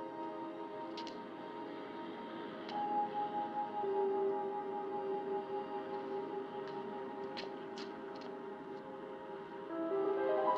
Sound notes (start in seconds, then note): none